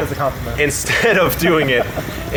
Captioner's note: laughing